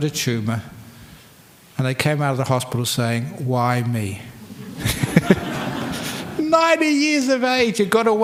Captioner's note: laughter